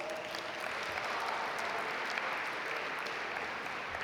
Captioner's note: audience applaud